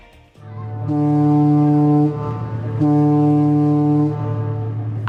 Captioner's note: ship horn blaring